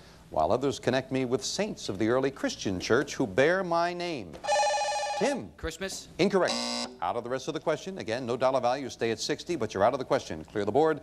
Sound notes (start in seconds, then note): 4.4 bell rings